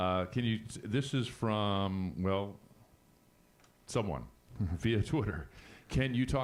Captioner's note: chuckles